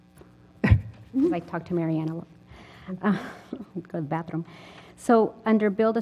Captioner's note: laugh